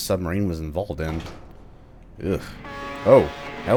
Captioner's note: radio buzz